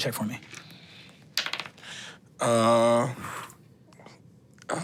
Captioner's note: dice rolling